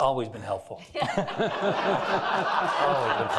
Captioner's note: all laughing